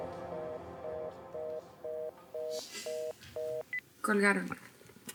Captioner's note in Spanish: Bip